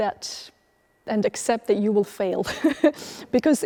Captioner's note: laughs